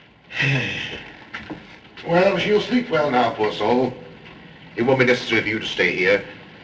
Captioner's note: sigh